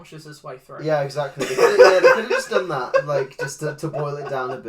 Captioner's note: laughs